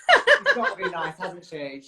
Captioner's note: laughs